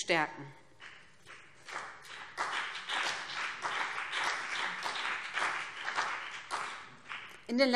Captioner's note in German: Beifall BÜNDNIS 90/DIE GRÜNEN